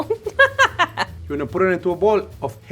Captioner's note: laughs